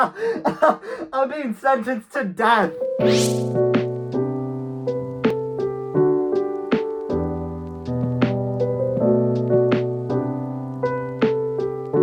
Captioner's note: intense laughter